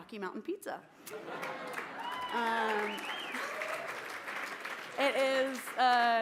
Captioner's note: applause